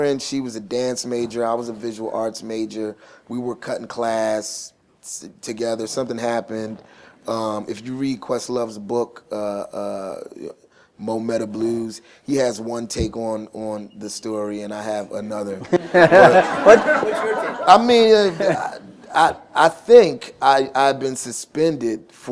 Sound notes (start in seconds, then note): 15.6 laughter